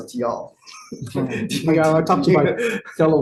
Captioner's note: group laughing